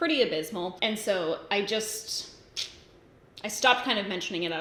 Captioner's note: sucks teeth